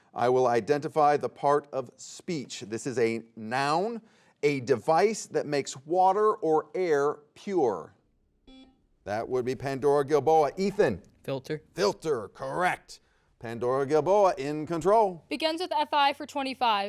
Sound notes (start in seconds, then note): 8.4 buzzer dings